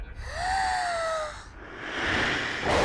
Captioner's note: gasping